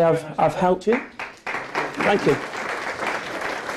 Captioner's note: audience applauds